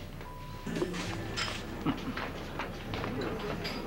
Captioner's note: Il rigole